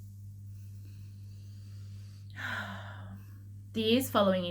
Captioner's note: taking deep breath